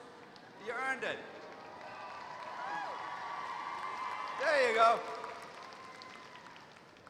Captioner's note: applause